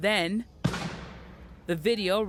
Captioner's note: gunshot